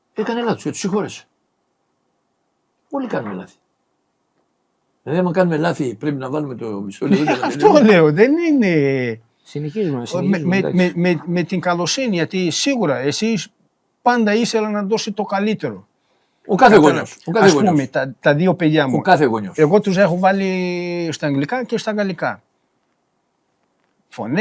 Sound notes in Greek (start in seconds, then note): 7.1 γέλια